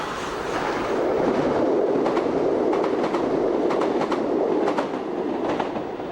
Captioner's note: train passes